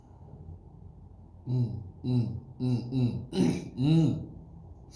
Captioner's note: clears throat